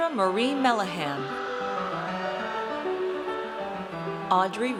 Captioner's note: audience cheers